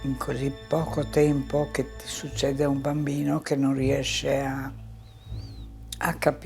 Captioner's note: continues speaking in foreign language